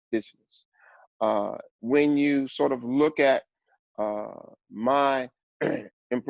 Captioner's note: cough